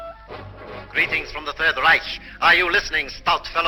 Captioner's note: radio Broadcast